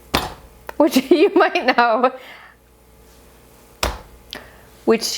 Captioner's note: chuckles